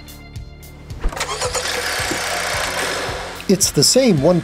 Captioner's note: engine crank and rev